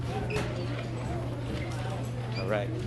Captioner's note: people chattering